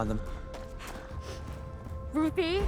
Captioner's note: pants, sniffles